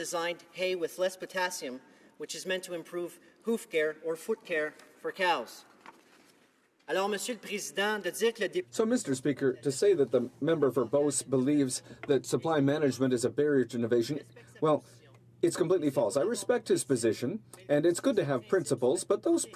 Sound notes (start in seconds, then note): 13.3 speaking French